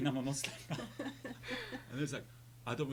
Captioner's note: laughing